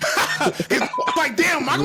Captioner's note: laughing